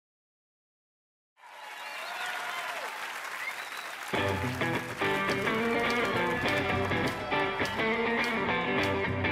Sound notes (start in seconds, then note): 1.4 audience cheering; 4.2 funky rock music